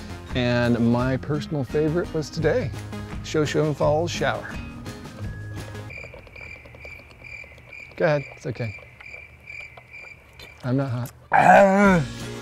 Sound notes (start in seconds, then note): 5.2 cricket Sounds